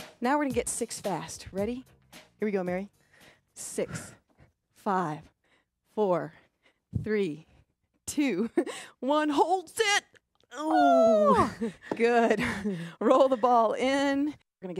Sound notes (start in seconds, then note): 8.4 laughs; 10.6 both grunt